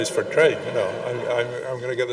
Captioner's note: audience laughing